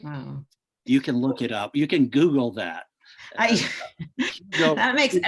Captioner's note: chuckles